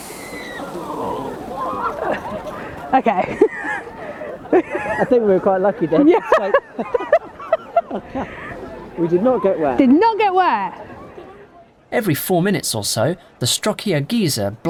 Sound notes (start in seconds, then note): 0.0 crowd screams